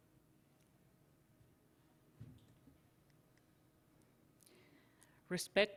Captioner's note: silence